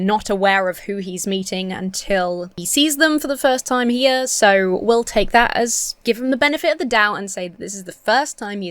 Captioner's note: none